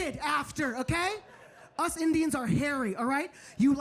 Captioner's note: audience laughing